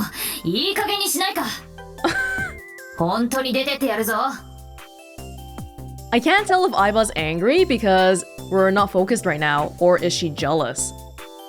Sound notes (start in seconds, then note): 2.0 chuckles